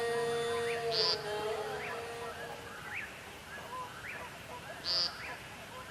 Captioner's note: wilderness sounds